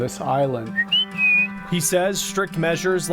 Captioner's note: whistling